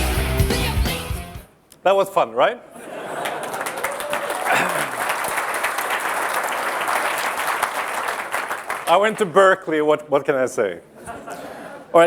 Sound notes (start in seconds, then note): 5.8 applause